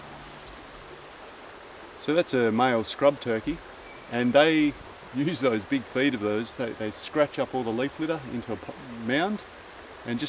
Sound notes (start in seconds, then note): 3.8 bird calls